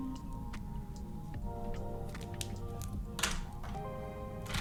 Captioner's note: humming